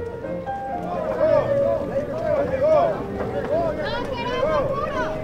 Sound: crowd shouting

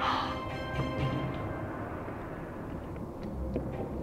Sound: sighs; intense music

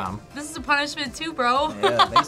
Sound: laughs

